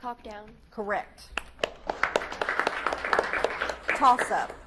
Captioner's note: audience claps